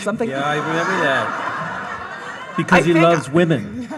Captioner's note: audience laughing